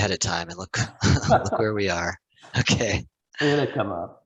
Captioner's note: both laugh